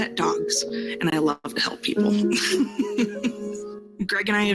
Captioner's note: laughs softly